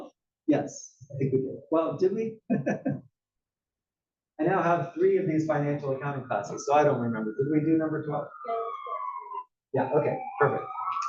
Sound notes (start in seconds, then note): 2.4 laugh